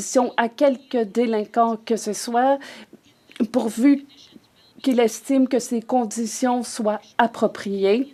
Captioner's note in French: voix de l'interprète